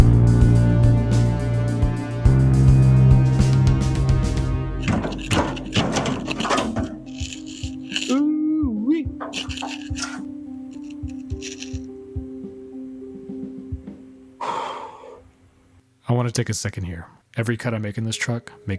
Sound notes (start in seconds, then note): 5.8 sighs